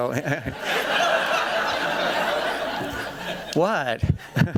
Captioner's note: laughter